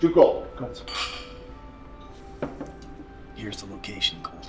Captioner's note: glasses clink